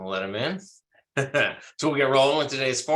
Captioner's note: laughs